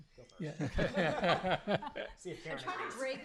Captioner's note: laughter